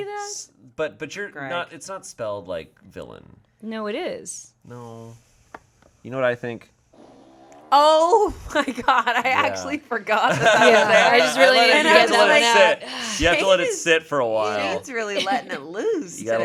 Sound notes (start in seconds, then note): 6.9 fart machine farts